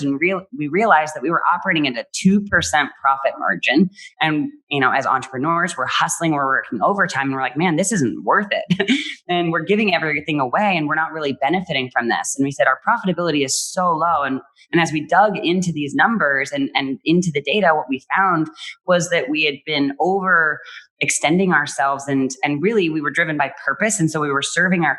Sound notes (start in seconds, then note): 9.1 laughs